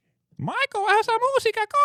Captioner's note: speaking In Foreign Language